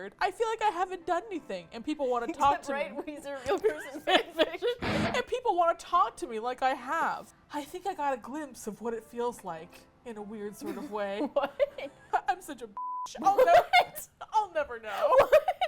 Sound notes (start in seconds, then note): 10.6 laughs; 14.8 laughs